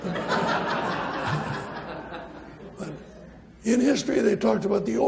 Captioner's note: audience laughs